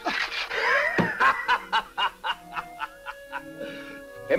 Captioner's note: laughs; man laughing